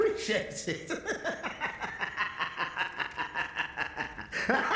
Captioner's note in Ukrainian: відвертий сміх; гучний насмішковий сміх